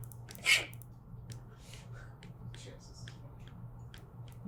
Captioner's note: none